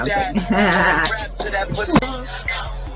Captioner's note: mimic laugh